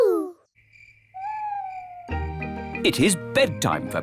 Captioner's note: crickets chirping